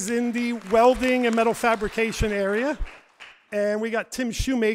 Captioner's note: audience applauds